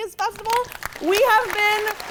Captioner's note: audience clapping